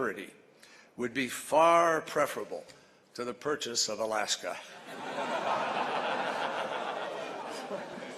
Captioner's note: laughter